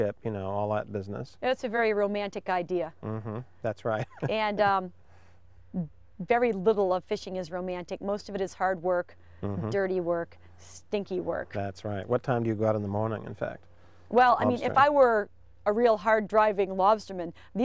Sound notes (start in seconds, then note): 3.6 chuckling